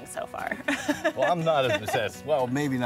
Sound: laughing

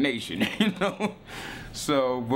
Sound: laughing

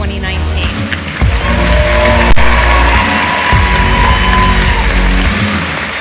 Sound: cheering

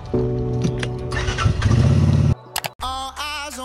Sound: car engine starts

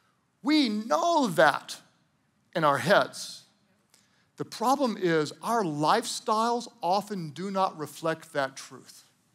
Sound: none

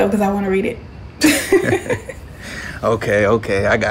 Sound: Shelly laughs

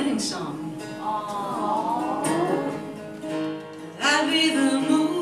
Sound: audience "awws"

